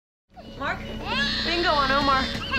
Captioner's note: baby crying